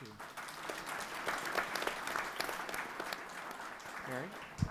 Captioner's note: people applauding